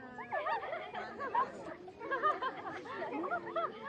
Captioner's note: kids laughing